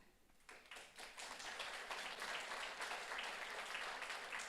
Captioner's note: audience applauds